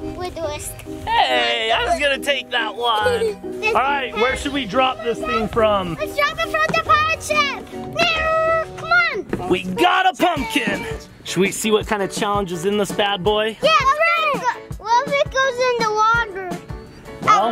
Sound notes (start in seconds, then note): 8.2 squeals